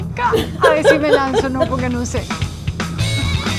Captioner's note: laugh